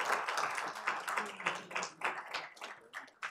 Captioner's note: applause